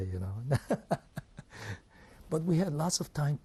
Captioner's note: laughs